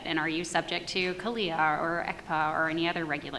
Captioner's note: none